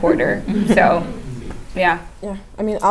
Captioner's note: laugh